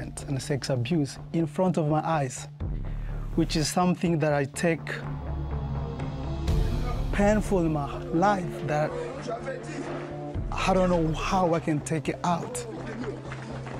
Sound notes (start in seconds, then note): 8.8 crowd talking